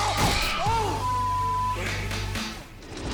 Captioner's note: beep